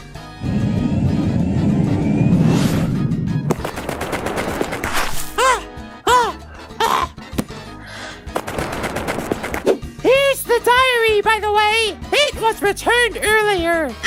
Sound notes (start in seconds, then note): 0.1 zooming sound; 3.5 very fast running; 6.1 panting; 8.4 very fast running